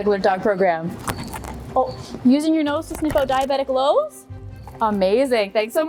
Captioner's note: mic rustles